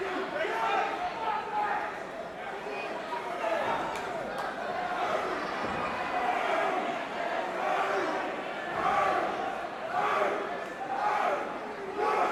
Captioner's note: crowd chatter